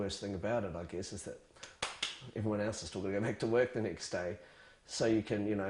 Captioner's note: claps hands fast